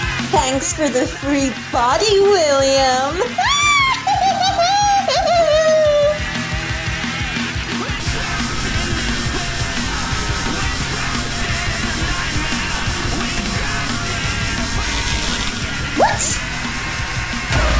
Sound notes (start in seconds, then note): 3.2 more Mad Laughter